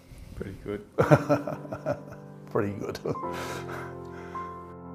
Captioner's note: laughs; solemn music